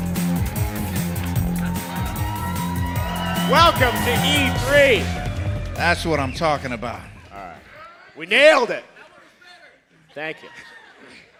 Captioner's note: cheers and applause